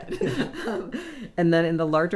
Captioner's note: laughing